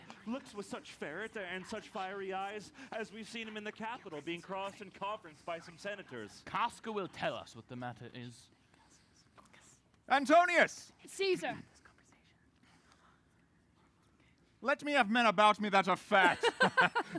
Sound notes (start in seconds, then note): 8.9 whispers